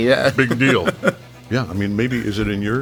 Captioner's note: laughing